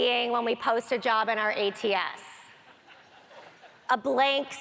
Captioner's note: audience laughter